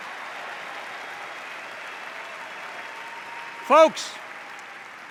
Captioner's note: applause, cheers